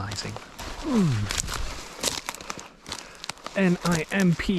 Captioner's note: grunt